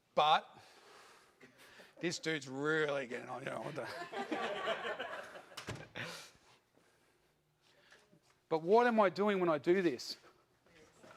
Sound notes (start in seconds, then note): 3.6 audience laughs